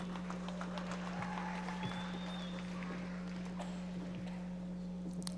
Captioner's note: audience members applauding